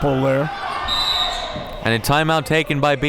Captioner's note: whistle blows